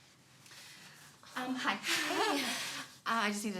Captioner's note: laughs